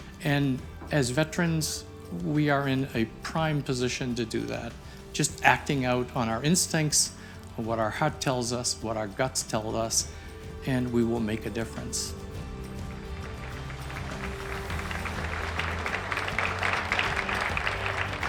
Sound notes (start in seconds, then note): 12.8 crowd applauds